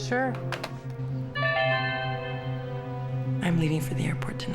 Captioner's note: chime